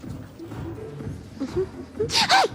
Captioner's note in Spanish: Tararea